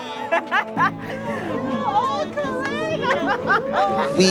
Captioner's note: runners laughing